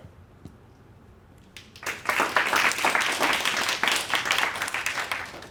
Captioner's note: applause